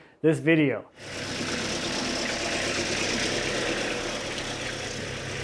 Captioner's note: engine rumbling